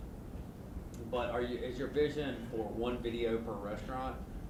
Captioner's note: voiceover